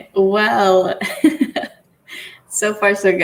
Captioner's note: laughs